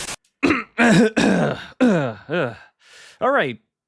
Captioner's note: aheming